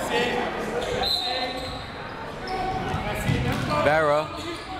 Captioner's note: whistle